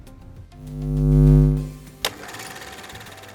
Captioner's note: light bulb buzzing; film camera rolling